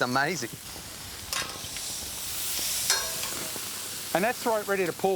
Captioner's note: grill sizzling